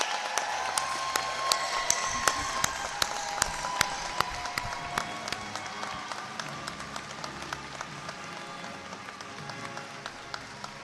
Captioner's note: cheers and applause